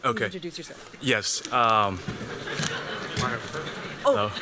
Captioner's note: laughter